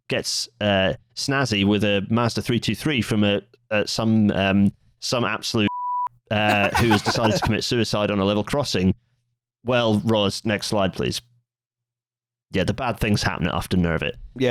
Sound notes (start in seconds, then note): 6.5 laughter